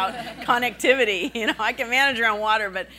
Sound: laughing

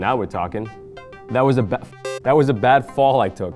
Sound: video game beeps

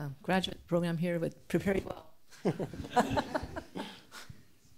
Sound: laughs

